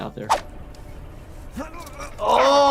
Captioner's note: person grunting